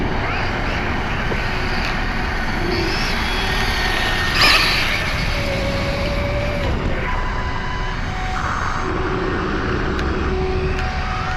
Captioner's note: electric motor screaming